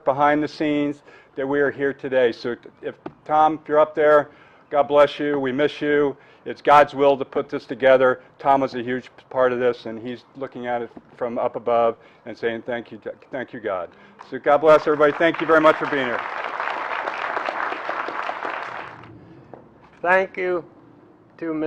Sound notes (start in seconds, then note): 16.2 applause